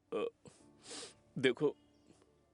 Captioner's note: sniffing